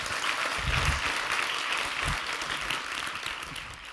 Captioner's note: applause